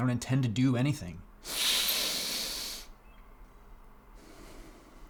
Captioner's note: Brad inhales sharply